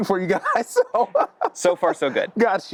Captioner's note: laughing